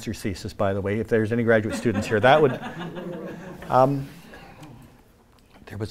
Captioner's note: laughter